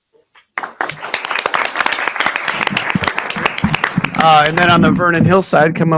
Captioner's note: audience applauding